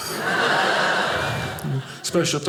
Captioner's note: audience laughing